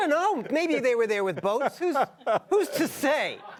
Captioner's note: laughter